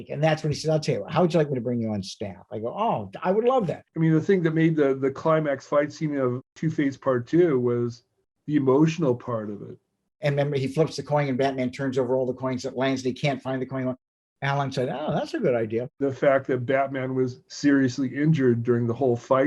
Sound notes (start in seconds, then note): none